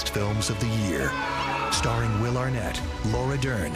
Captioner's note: shouting